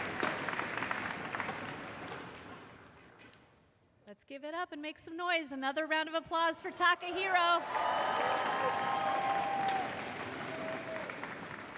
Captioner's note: cheers and applause